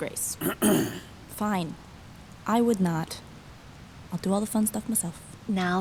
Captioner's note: under her breath